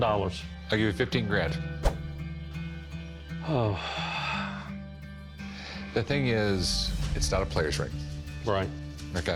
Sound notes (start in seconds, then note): 3.4 sighs